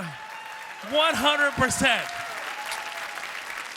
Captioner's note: applause